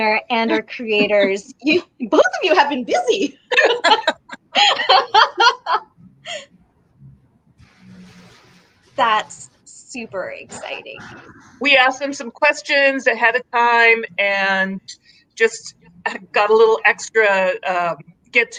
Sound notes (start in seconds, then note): 3.5 laughing